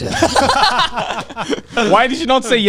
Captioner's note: all laughing loudly